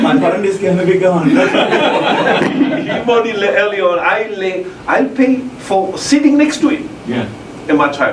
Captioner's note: laugh